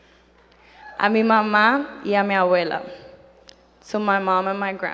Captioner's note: speaking in foreign language